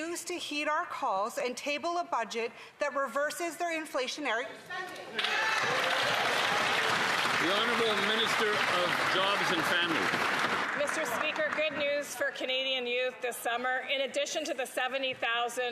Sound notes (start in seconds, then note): 10.9 some Applause